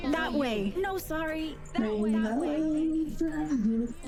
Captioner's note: dialogue echoes